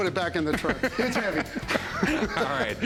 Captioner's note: laughing